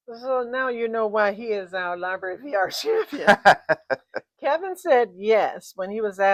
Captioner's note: laughs